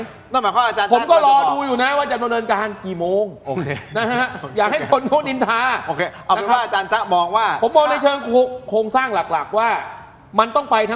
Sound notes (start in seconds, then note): 3.5 laughter